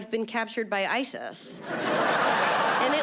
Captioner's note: audience laughing